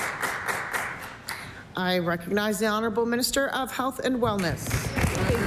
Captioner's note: applause